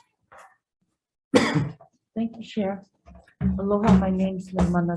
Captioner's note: coughs